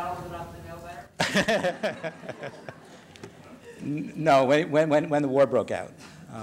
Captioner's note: laughs